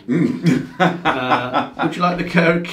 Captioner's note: laughs